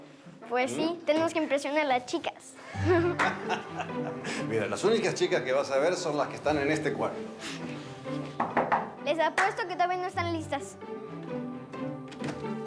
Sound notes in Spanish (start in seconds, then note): 2.6 Risas; 8.4 Toques en la puerta